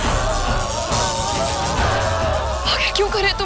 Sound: lightning

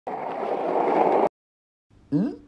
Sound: nervous gulp

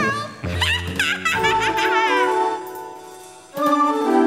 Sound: witch cackles

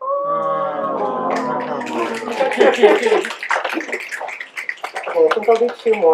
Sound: audience awws and snaps

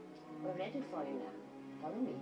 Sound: tv noises

